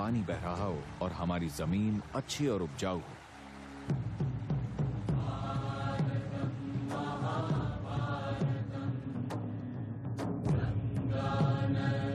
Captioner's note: applause